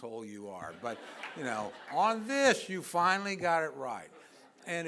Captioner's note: laughter